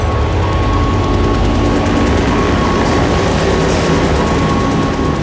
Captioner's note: helicopter zooming